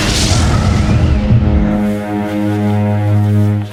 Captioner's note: breathing heavily